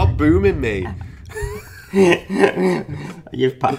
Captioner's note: laughing